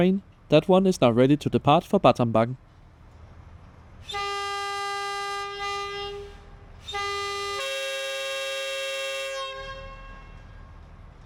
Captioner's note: train departing sounds